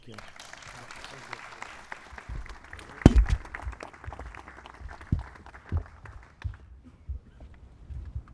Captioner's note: applause